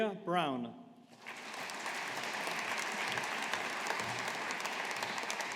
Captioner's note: audience applauding